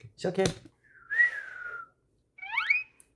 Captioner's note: whistle